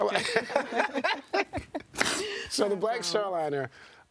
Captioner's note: laughing